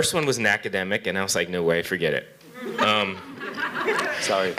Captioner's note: laughter